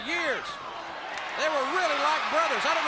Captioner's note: crowd cheering